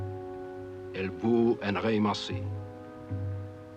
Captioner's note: speaking french